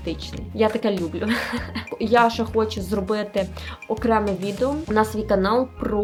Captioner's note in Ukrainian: сміх